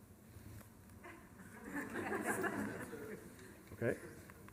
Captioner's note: laughter